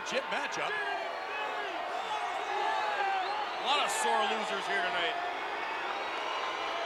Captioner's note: applause